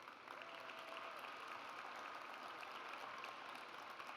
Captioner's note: audience applauds